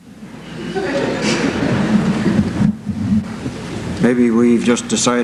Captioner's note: laughter